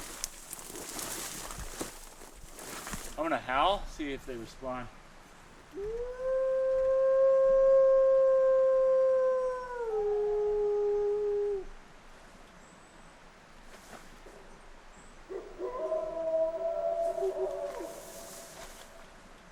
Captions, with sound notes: (leaves rustling) I am gonna howl, see if they respond. (narrator howling) (wolves howling)